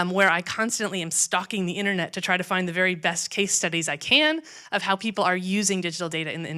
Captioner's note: none